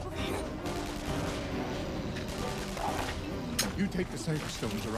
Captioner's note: rapid gunfire popping; creature growling